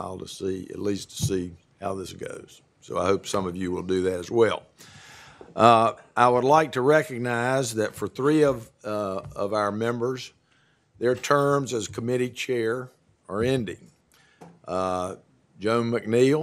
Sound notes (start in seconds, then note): none